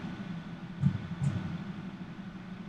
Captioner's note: heartbeats